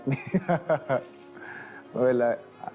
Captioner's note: Manny chuckling